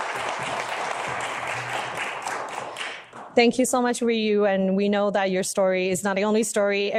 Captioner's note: applause